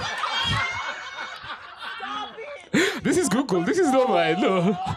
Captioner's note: laughter